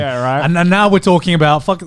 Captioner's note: all laughing